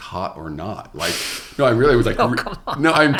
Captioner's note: laughs